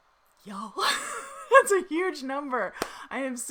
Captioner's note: laughs